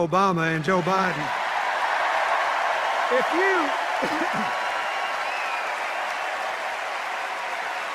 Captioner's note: sustained cheers and applause